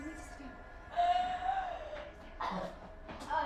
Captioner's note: Sarah howls in pain